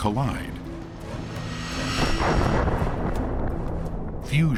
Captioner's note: explosion